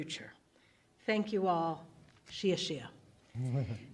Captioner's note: speaks in foreign language; man laughing